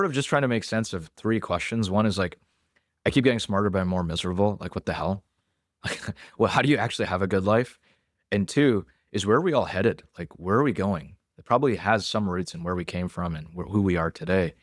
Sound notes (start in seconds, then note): 5.9 laughs